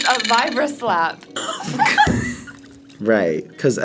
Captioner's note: laughs